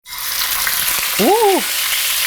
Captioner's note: pan sizzling